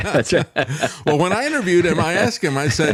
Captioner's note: laughing